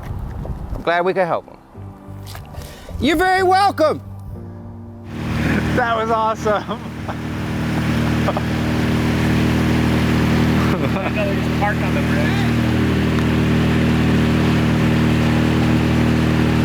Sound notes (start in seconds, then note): 7.8 laughs; 12.3 yells